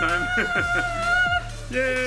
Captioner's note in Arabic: أبي يضحك